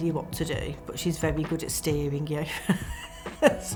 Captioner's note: laughs